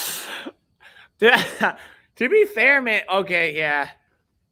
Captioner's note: chuckles